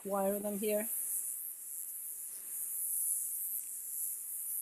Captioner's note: insects buzzing